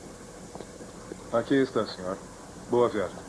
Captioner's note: none